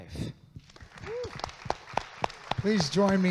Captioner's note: audience claps